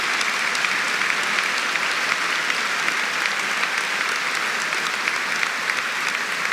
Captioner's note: applause